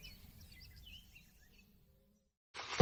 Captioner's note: birds chirping